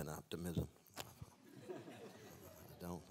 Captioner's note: laughter